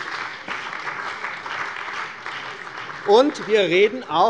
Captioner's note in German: Beifall bei der CDU und dem BÜNDNIS 90/DIE GRÜNEN